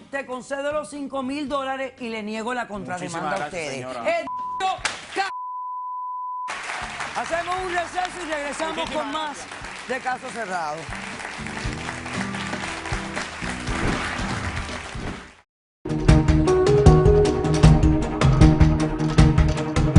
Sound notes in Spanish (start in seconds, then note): 5.3 Bip; 8.4 Se escucha otro bip; 11.7 Aplausos